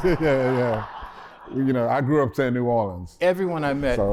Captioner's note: laughter